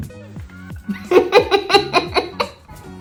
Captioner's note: laughs